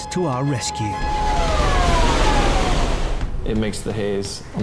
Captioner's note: siren blaring; water splashing